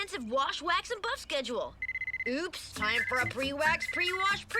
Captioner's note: alarm beeping